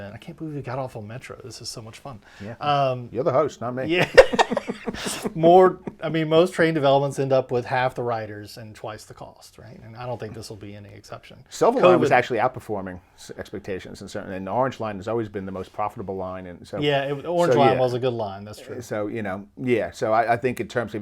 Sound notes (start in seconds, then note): 4.0 laughing